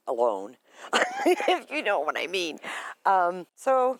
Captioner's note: laughs